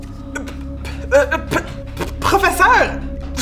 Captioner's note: stutters